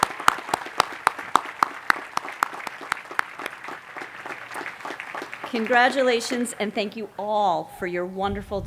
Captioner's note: cheering and applause